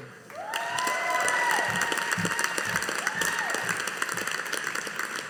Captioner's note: audience applauding